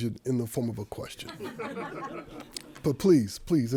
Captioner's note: audience laughing